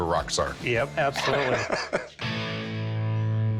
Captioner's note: laughs